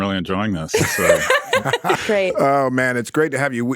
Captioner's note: laughs